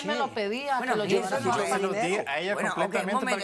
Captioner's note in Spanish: Comentarios al unísono